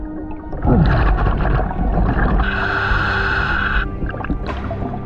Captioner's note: oxygen mask hissing; water burbling